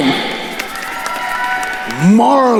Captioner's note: attendees cheering and applauding